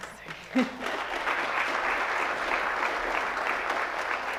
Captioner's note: audience applauds